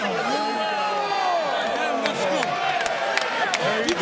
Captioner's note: crowd groaning